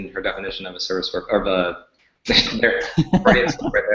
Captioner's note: laughs